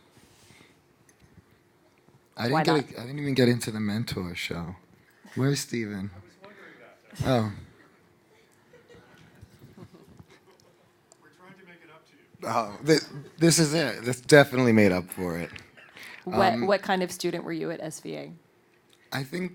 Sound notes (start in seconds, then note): 8.3 laughing